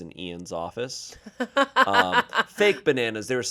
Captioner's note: laughs